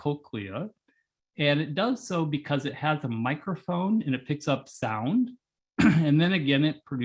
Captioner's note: cough